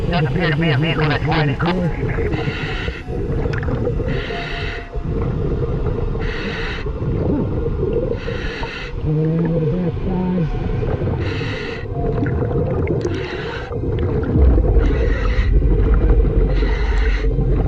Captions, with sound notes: It does appear to be a vehicle that's white in color. Moving around to the back side. (air hissing)